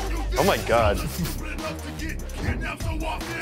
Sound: laughs

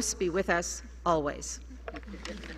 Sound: applause

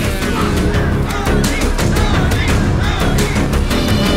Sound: crowd Cheering

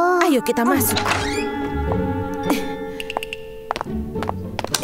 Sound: door creaks

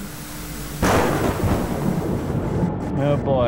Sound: thunder rumbling

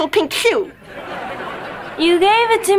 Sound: laughing

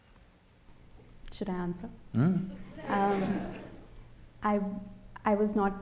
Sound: laughter

